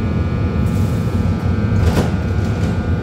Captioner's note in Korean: 출입문 닫힘